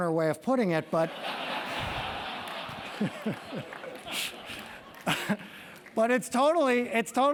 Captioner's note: laugh